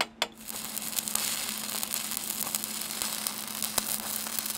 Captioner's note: welder sputtering